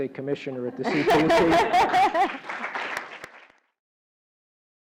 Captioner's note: laugh; applause